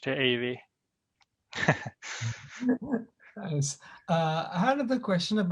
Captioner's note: laughter